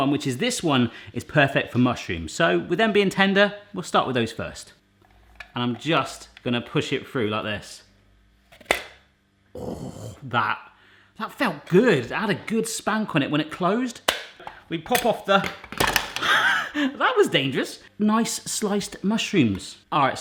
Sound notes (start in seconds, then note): 8.5 slicer snaps; 14.8 plastic clattering